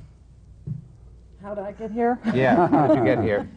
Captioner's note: laughter